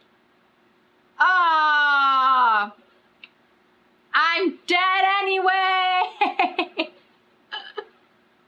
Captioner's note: laughs